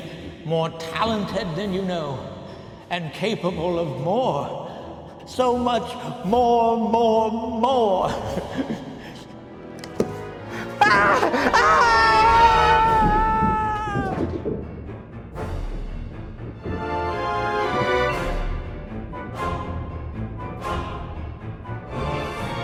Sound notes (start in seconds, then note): 8.2 chuckles nervously; 8.9 foreboding music; 10.8 Bob screaming; 13.8 suspenseful music